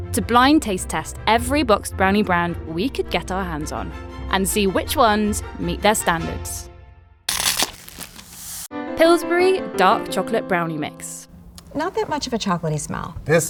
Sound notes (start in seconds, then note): 7.3 cardboard tearing; 7.3 paper crinkling